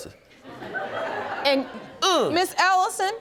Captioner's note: audience laughs